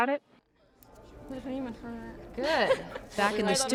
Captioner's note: students chattering